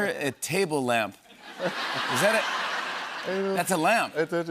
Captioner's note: laughter